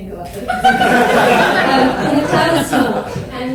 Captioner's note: audience laughs